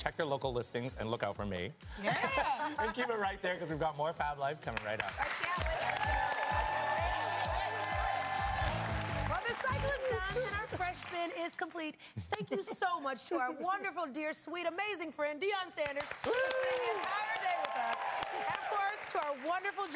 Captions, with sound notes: local listings and look out for me. >> Yeah! >> And keep it right there 'cause we've got more "FABLife" coming right up. >> I can't live without it. (cheers and applause) is done and our fresh spin is complete. Thank you so much to our wonderful, dear, sweet, amazing friend Deion Sanders for spending the entire day with us, and, of course, to our wonderful